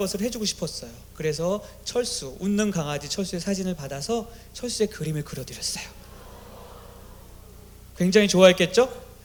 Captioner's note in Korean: 감탄